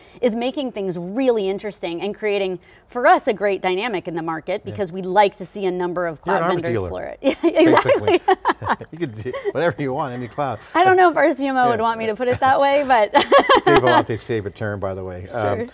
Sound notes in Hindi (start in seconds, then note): 8.8 हंसते हैं; 11.5 हँसते हुए